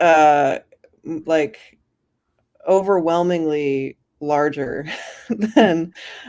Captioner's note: chuckles